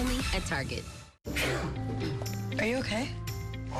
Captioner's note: sneezing